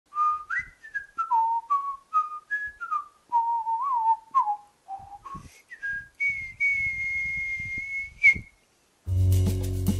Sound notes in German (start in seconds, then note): 0.0 Pfeifen